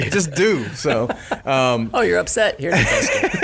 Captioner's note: laughing